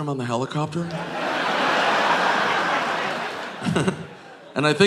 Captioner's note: audience laughing; Nick chuckles